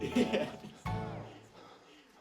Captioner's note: man laughing